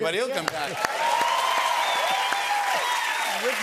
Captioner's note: cheers and applause